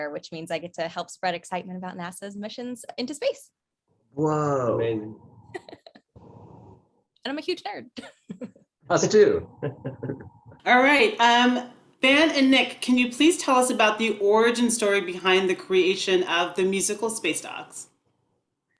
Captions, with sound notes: which means I get to help spread excitement about NASA's missions into space. - Whoa. - Amazing. - (laughs) And I'm a huge nerd. - Us too. (laughs) - All right, Ben and Nick, can you please tell us about the origin story behind the creation of the musical, "SPACE DOGS"?